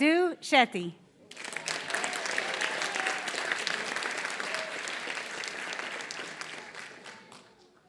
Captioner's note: applause